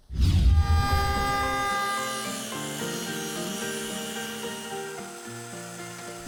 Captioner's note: saw grinding; soft music